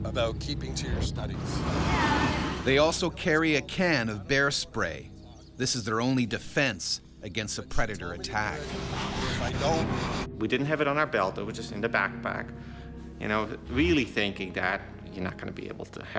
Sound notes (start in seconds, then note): 3.1 voiceover